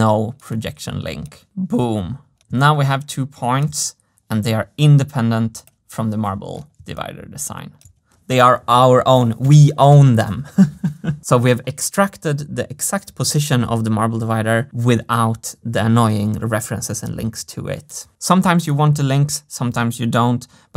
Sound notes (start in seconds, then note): 10.3 chuckles